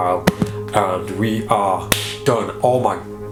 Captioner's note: claps